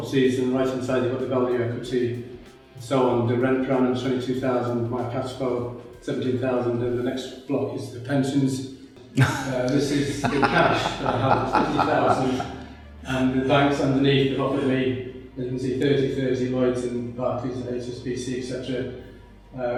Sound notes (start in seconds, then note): 9.1 judges laughing